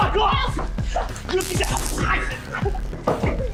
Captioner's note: taser sound